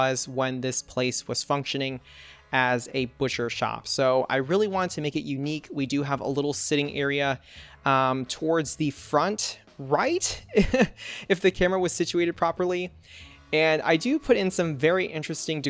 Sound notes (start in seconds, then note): 10.4 laughs